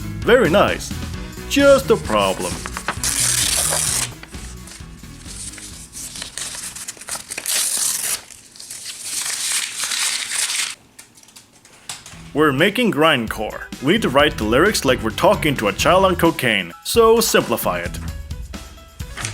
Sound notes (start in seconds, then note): 3.1 rip noises; 4.1 sounds of paper, hopes and dreams being ripped to pieces